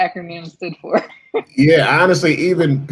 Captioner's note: laughter